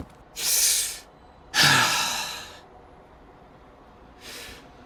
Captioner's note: inhales and exhales